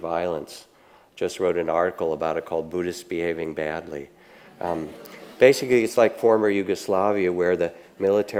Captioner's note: audience laughing